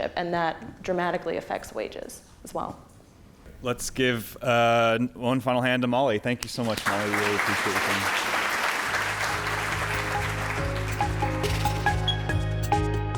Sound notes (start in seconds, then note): 8.0 applause; 9.1 upbeat synthesizer music